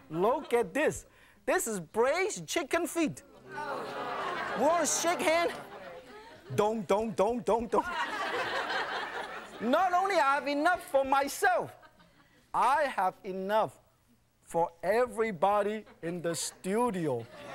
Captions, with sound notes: Look at this! This is braised chicken feet! (audience laughing) (audience gasping) Don't shake it! Don't, don't, don't, don't! (audience laughing) Not only have enough for myself, I have enough for everybody in the studio!